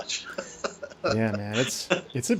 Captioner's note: chuckling